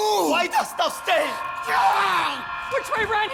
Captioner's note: cries out